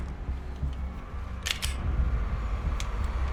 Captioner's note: cocking gun